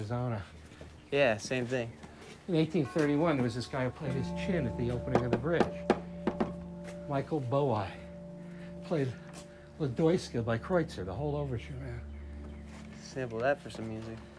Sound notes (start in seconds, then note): 5.0 knocks